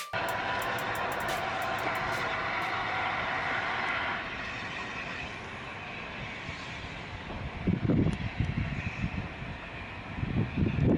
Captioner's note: steam Train noises